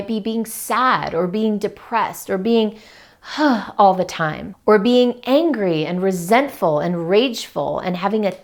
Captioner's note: sighs